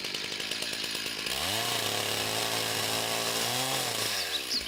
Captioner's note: chainsaw whirs